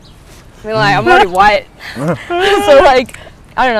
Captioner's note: laughing